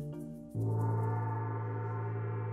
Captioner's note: gong